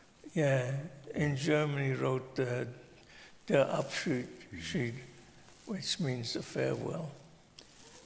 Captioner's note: speaking German